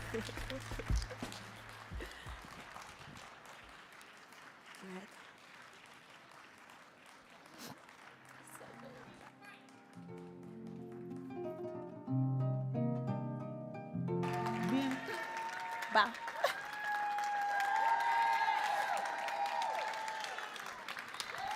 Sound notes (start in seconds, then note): 0.0 chuckling; 9.4 gentle music; 17.2 audience cheering